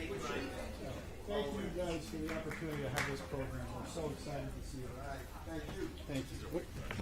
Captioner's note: applause